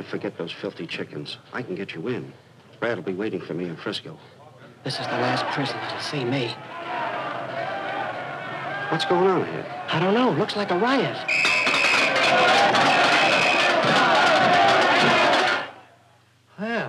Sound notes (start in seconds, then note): 7.2 crowd roaring; 11.2 whistle blowing; 11.7 cups rattling